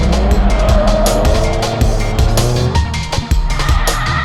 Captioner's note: engine revs; tires squealing